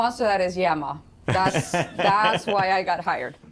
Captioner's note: laughter